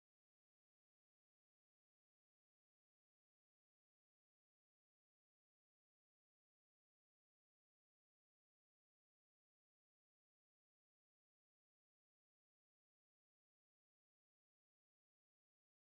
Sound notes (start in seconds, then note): none